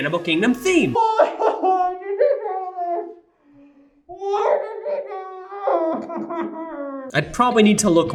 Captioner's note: Web cries